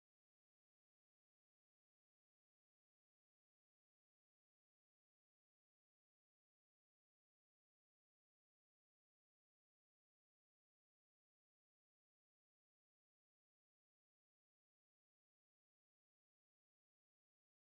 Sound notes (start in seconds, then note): none